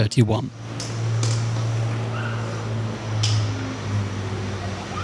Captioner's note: aircraft engine